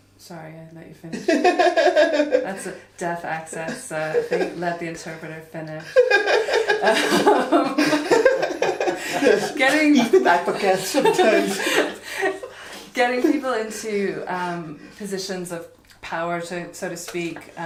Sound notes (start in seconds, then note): 5.8 all laugh